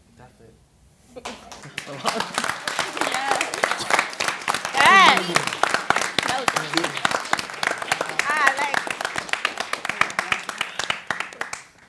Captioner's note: applause